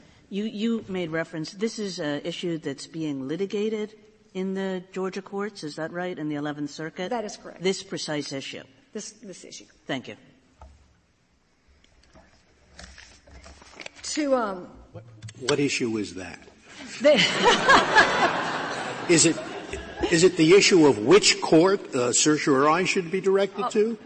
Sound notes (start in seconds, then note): 16.8 laughter